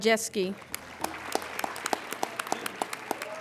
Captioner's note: applauding